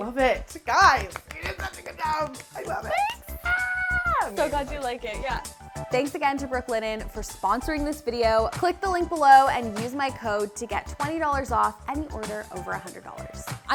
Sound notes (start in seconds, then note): 3.3 screaming